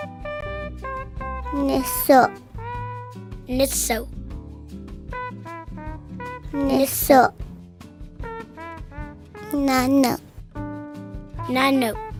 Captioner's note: kids speaking Cheyenne numbers